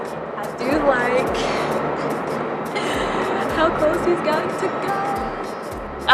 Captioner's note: laughs